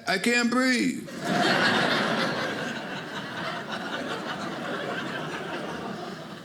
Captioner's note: audience laughing